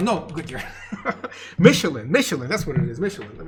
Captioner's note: laughs